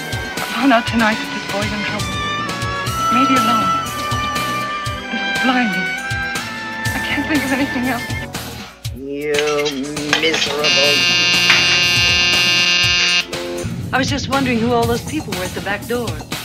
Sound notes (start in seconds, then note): 10.6 doorbell buzzes